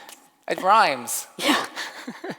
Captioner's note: laughs